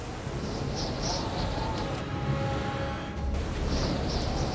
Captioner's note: wind howling